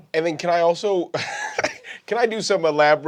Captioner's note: laughing